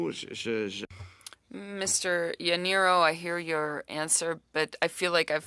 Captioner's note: speaking French